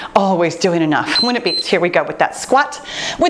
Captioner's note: timer beeps